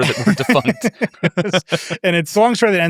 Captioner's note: laughing